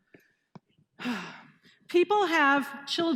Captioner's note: sighing